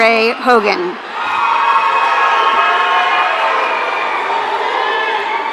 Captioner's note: audience cheering